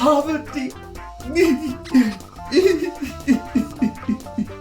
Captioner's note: sobbing